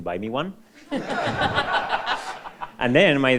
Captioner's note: all laughing